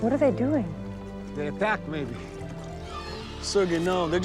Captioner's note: squawking